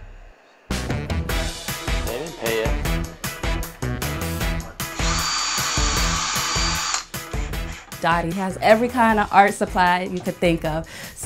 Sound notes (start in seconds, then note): 1.0 upbeat music; 4.9 power drill whirling